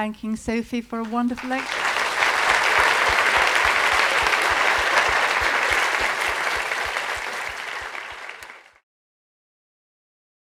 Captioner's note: applause